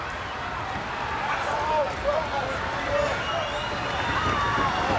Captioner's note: crowd stomping